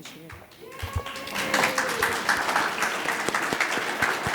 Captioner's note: audience claps